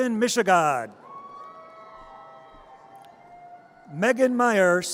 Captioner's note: audience cheers